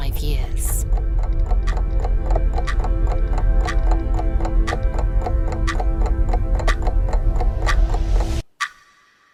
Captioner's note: clock Ticking